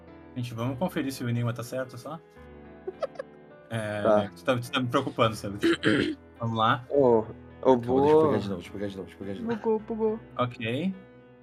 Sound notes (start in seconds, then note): 2.9 giggles